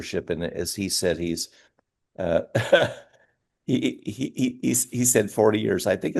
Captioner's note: laughs